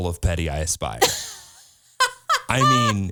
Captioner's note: laughs